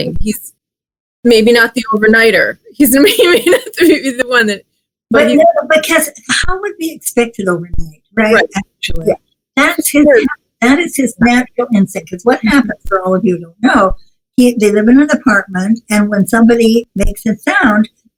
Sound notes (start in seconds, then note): 3.0 laughs